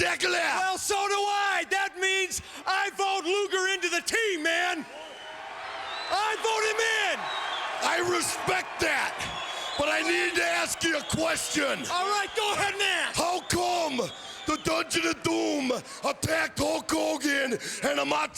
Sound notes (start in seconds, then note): 5.2 crowd cheering